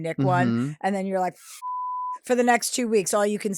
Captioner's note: beep